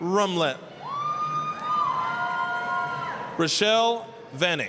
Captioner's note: applause, cheering